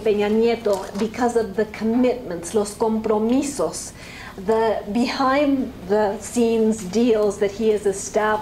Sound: spanish

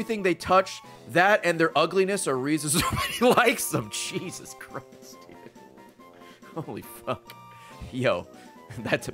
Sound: laughs

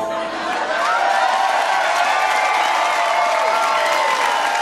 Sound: audience applauding

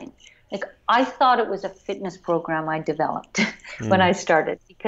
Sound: laughs

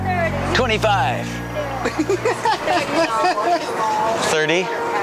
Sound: laughing

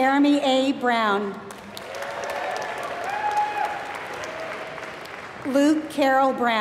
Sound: applause

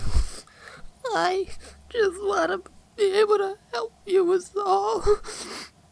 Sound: sniff

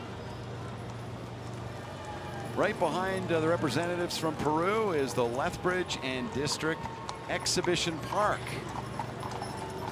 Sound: cheering and Applause

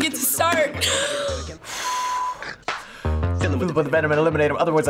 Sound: laughs; exhales shakily

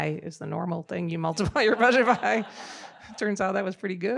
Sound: audience laughing

